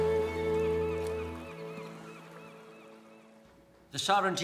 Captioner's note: gulls calling